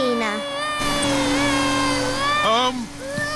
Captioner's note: crying